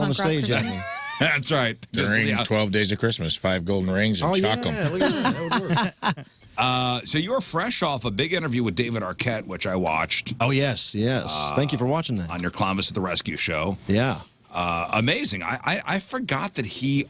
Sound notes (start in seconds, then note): 4.4 laughing